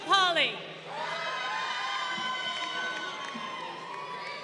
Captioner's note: crowd cheering